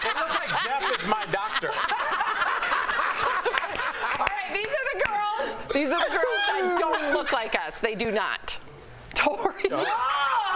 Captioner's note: laughter